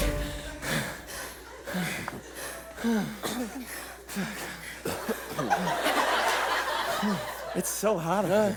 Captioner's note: heavy breathing